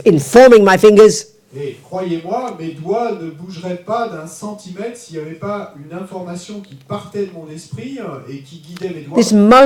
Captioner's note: audience member speaks in French